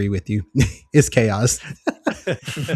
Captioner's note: laughs